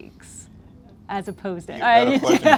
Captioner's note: laughter